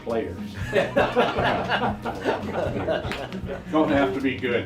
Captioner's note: laughs